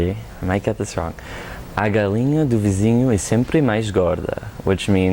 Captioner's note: speaking Portuguese